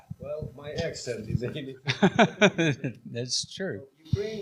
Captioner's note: laughing